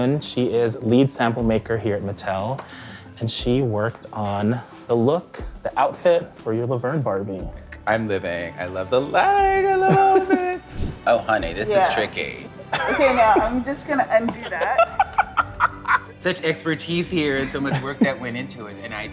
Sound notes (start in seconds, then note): 14.2 Laverne laughs